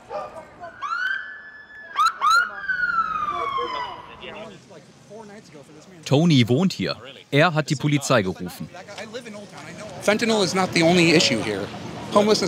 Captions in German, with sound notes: (Sirene) Tony wohnt hier. Er hat die Polizei gerufen.